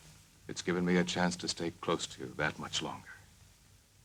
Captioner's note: none